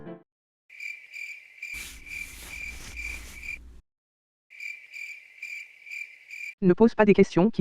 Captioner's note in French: crissements de grillons